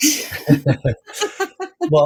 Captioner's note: both Laughing